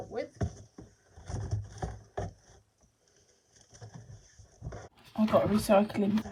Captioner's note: rustling